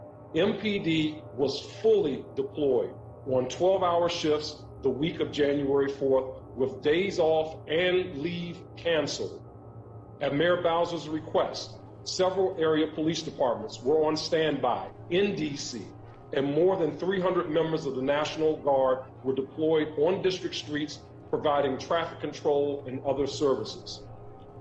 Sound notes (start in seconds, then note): none